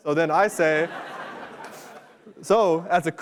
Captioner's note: laughter